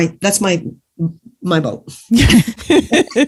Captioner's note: laughs